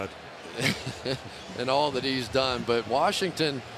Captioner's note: chuckles